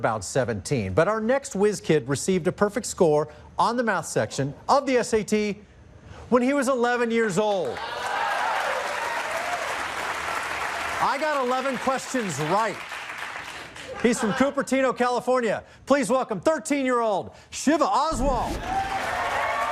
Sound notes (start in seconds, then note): 7.6 applause